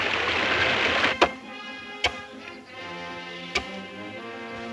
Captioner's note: axes thudding